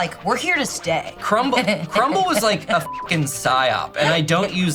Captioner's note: beep